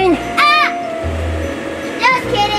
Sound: screams

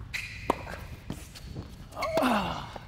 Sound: racquet hits ball

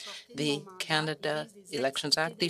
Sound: speaking French

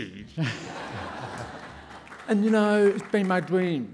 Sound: laughing

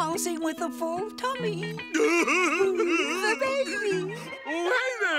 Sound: laughing

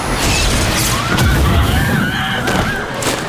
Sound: screaming

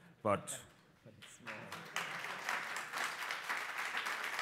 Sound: applause

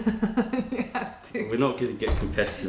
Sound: laughter

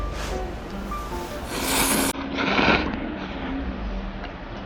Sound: slurping noodles X 10

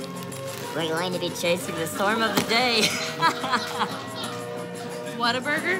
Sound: laughing

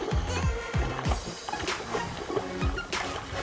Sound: splashing

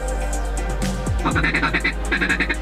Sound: duck calling

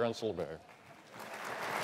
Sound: applause

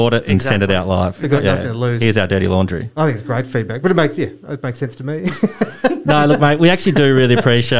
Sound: laughter

